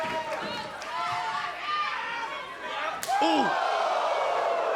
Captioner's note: crowd cheering; crowd chatter